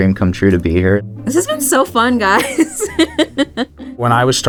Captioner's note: laughs